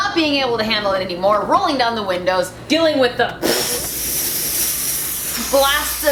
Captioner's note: air rushing